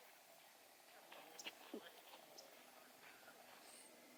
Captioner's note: birds chirping